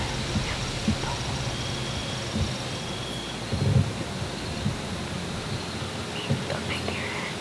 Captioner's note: whispering; whispering